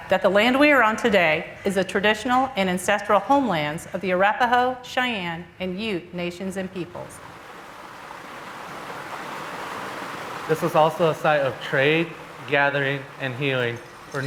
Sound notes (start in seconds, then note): 6.8 water rippling